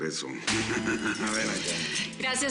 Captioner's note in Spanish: Risas